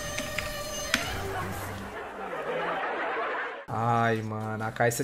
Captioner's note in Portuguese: risos